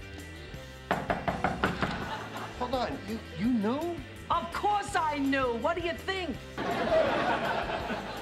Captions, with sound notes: (knocking on door) Hold on, you knew? - Of course I knew, what do you think?